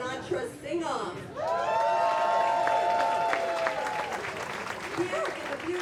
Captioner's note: audience cheers